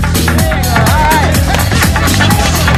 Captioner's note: applause